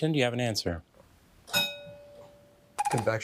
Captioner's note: bell dinging